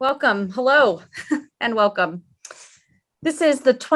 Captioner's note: chuckles